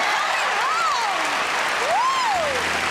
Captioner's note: cheers